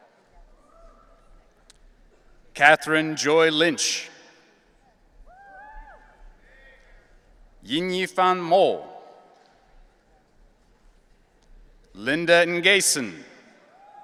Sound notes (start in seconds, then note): 5.3 audience cheering